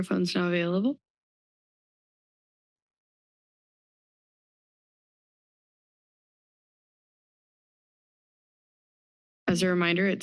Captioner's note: silence